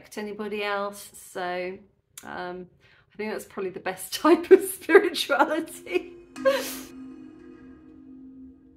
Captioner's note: laughing